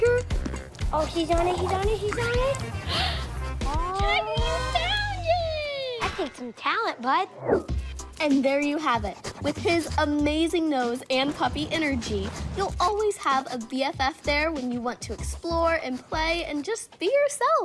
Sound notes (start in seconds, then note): 2.8 gasps